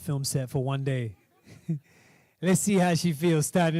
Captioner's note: laughing